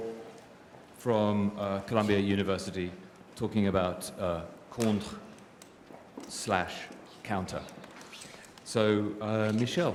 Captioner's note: french